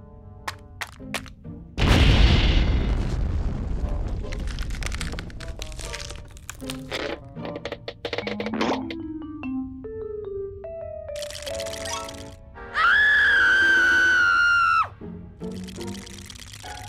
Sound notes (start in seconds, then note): 11.2 teeth chattering; 12.7 screams; 15.4 shivering